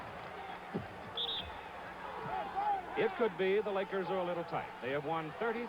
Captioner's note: whistle blows